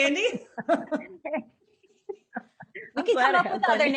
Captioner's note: laughing